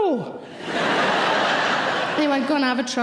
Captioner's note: audience laughing